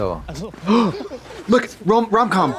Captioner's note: Trixie gasps